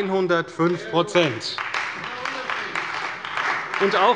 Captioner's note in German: Beifall bei der : Das ist der Unterschied!